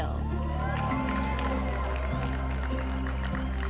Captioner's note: applause